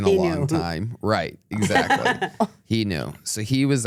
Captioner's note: laughs